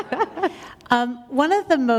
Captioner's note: laughter